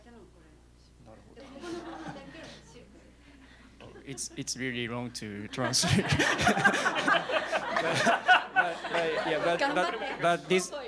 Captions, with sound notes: [LAUGHTER] It's really long to translate. [LAUGHTER] [NON-ENGLISH SPEECH]